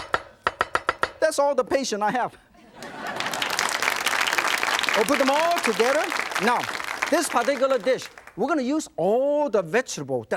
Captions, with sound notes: - That's all the patient I have! (audience laughs) (audience applauds) - We'll put them all together. Now this particular dish, we're gonna use all the vegetable